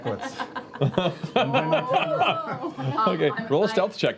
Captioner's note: laughter